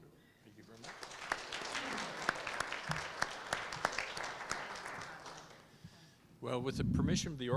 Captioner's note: applause